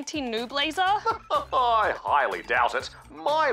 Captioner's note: laughs